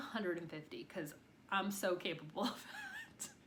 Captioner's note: chuckles